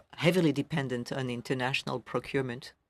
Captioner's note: speaking french